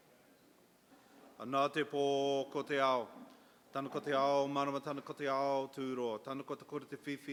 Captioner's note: in Maori for next minute